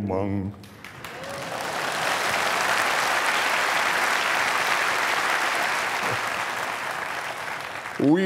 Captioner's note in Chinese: 掌声